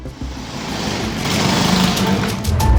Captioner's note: engine revs